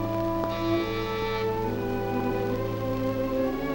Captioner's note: doorbell rings